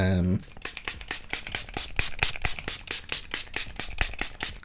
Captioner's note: bottle spraying